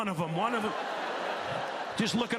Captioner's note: laughter